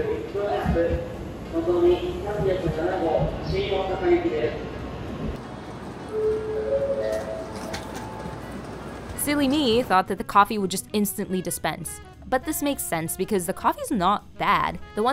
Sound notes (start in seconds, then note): 0.1 announcer speaking in Japanese; 6.0 train notification ringing